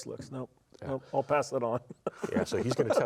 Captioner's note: laughs